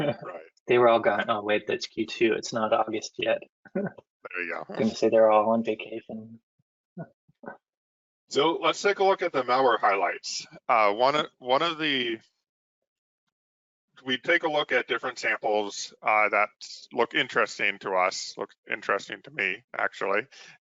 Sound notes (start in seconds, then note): 4.3 laughs; 6.9 laughs